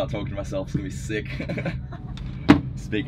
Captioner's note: laughs